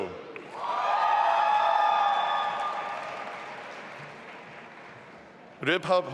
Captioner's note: audience applauding and cheering